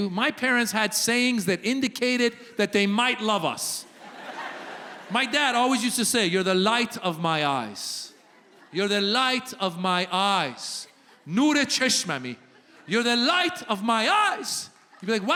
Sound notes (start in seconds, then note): 11.4 speaking Farsi